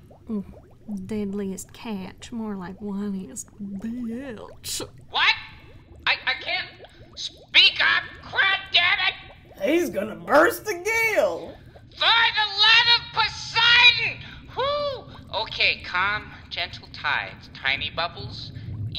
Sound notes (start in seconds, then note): 6.1 yelling; 13.0 yelling; 15.1 lowering his voice